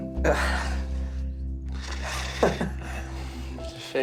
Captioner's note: laughter